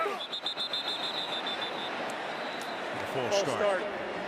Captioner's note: whistle